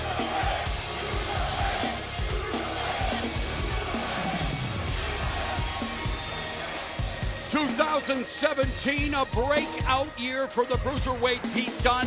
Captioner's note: fans chanting